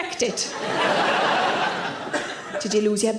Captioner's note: audience laughs